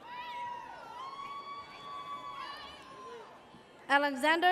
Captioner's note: audience cheers